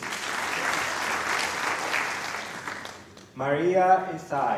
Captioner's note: applause